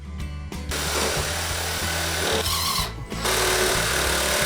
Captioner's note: saw whirring